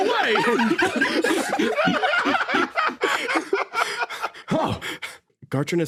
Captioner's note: laughs